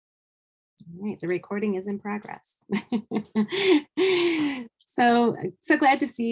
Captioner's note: laughing